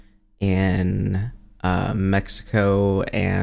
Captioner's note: none